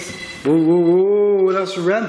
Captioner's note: beeping